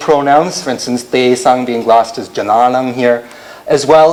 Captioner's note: non-english